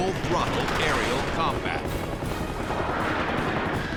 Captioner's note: gunshots